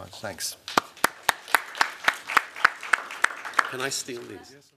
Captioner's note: applause